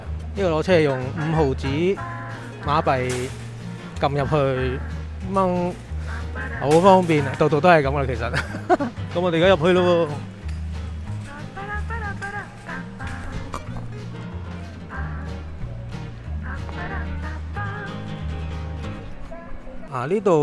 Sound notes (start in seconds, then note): 6.0 haha